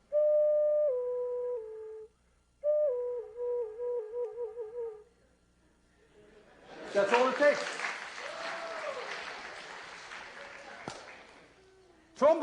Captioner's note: plays flute; applause